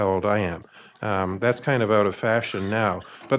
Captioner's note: audience laughing